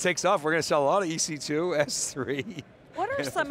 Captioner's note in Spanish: risas